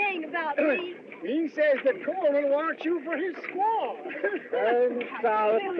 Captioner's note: chuckles